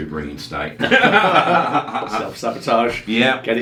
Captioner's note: laughing